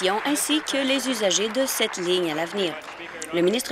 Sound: applause

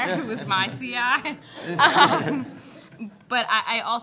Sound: laughter

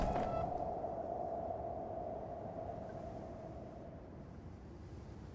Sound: wind whistling quietly

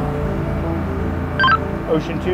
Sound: radio beep

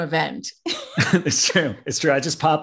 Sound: both laugh

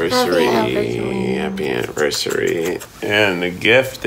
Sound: smooches smacking

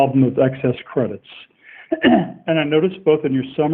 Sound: clears throat

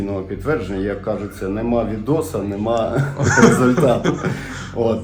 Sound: laughter

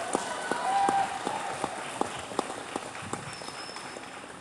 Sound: cheers

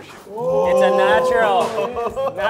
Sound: all cheering

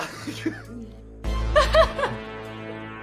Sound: laughs nervously

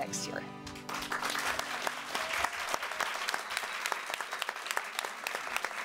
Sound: applause

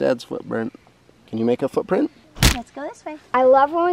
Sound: punching noises

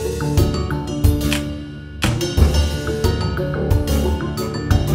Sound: camera snapping

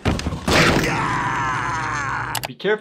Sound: lid thuds; Skips screams

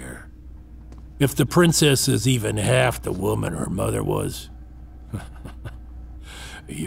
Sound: laugh

